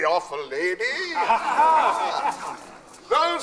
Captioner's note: ghosts chuckle